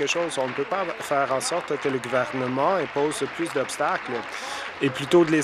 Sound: applause

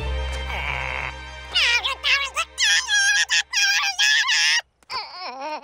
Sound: babbling

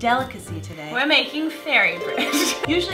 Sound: laughs

